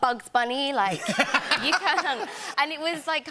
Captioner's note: laughter